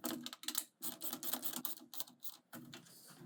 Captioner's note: screwdriver clicking